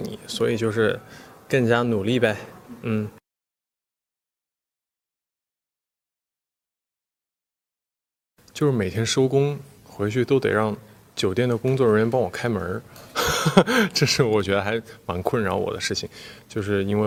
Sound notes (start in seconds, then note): 13.1 laughs